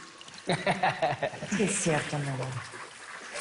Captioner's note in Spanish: Risas